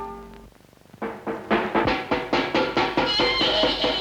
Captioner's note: somber music; child banging on a pan